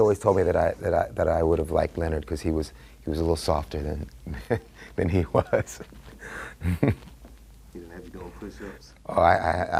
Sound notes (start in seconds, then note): 5.0 laughter